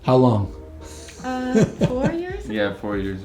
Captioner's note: laughs